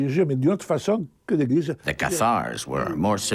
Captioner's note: speaking in a foreign language